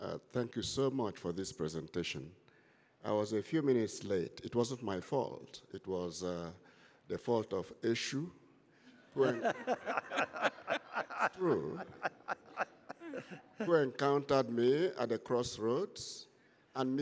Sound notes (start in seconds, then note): 9.1 laughter